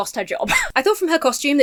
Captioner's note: wheezes